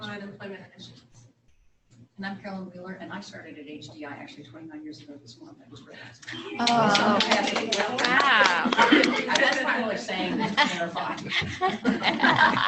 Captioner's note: applause